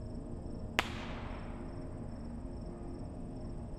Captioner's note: bottle rocket pops